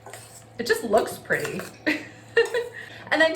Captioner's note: laughing